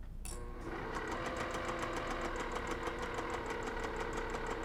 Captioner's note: sewing machine whirring